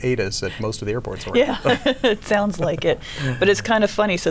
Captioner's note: both laughing